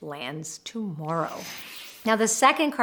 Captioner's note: frame whooshes